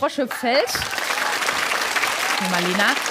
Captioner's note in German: Applaus